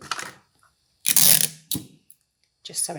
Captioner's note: sellotape squeaking